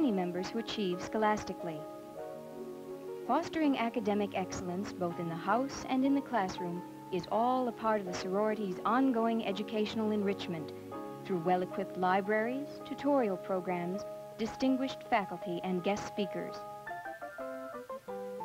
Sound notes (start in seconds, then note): none